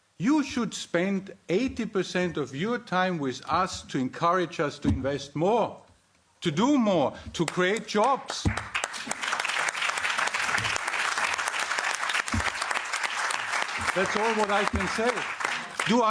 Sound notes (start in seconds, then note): 11.4 applause